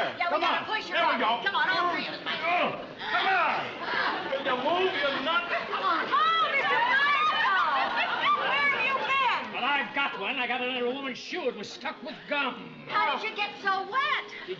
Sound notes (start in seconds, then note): 2.6 grunting